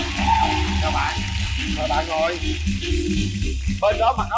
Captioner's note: applause